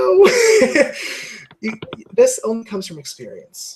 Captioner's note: laugh